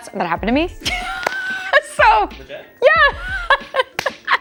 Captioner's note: laughing